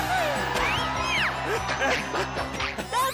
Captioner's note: excited panting